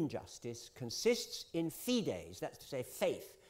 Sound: italian

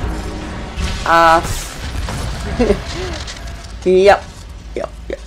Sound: chuckles

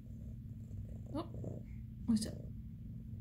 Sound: louder purring

